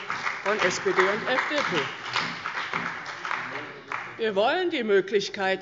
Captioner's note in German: Beifall bei der CDU und dem BÜNDNIS 90/DIE GRÜNEN